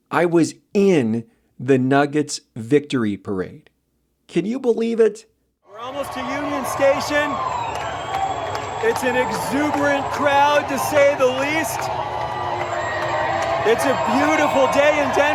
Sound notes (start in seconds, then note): 5.4 audio of in parade, crowd cheering